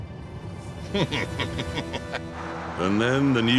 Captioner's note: chuckles